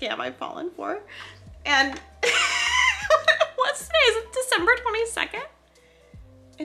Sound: laughs

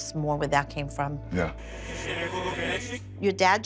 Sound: speaking distortedly

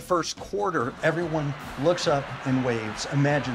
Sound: crowd cheering

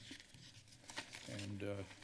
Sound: papers flipping

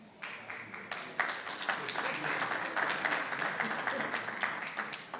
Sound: audience clapping

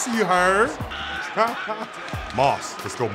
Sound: laughing

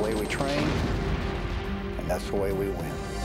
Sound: explosion

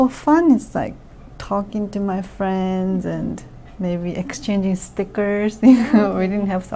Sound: laughs

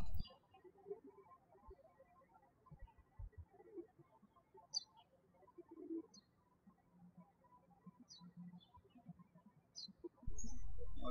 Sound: birds chirping

